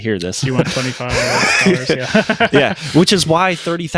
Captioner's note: laughing